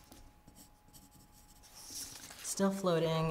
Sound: pencil scratching

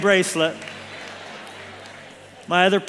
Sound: congregation laughs

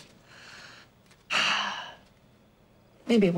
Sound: sighs

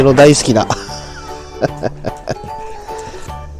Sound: laughs

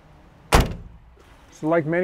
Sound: car door slams

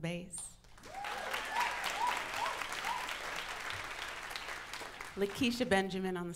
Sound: audience applauds; audience cheers

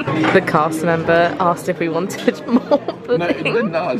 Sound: laughs; laughs

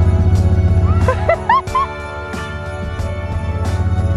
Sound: laughing

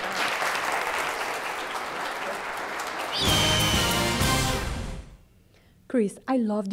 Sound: applause

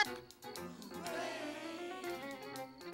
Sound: all whispering

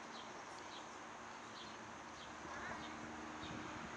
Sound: birds chirping

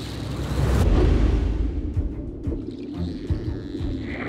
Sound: energetic music playing; dolphins clicking

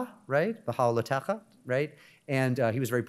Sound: speaks in Hebrew

